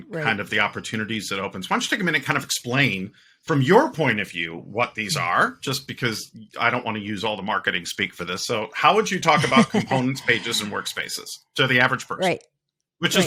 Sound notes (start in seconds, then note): 9.2 laughing